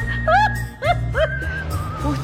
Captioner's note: laugh